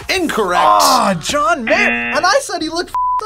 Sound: buzzer rings

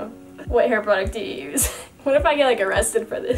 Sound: laughs

